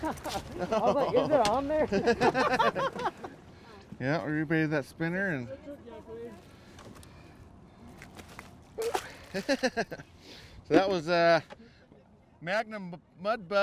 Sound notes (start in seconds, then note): 0.0 chuckling; 3.7 laughing; 7.1 fish splashing; 8.8 chuckling